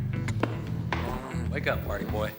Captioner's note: groans